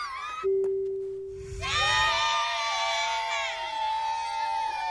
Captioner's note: cheering